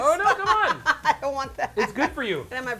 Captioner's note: laughing